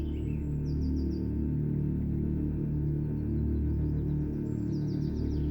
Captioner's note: birds chirping